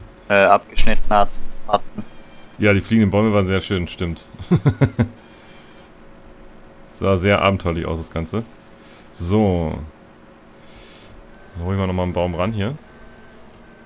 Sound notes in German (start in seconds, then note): 4.4 lachen